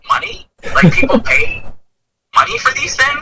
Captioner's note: laughs